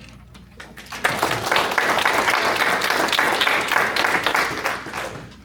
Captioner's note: applause